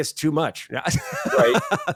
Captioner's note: laughs